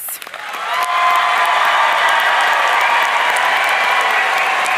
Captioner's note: audience cheering